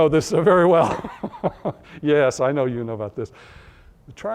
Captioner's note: laughter